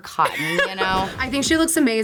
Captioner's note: laughs